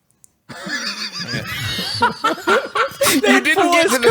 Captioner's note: laughs